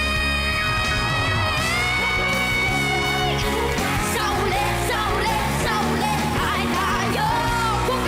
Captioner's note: loud cheering, applause